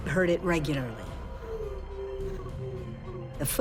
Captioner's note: weeping